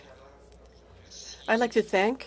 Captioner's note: speaking FRENCH